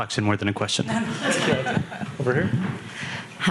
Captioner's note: audience laughing